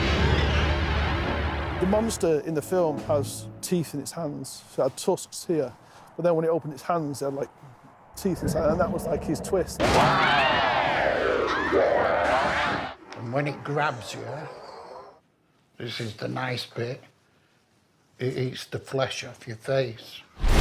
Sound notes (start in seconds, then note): 11.4 actress screams